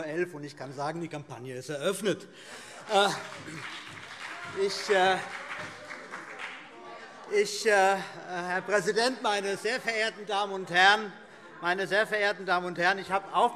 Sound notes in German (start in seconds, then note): 2.9 Beifall BÜNDNIS 90/DIE GRÜNEN - Zuruf: Helau!